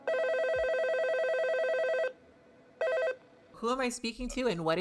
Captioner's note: phone ringing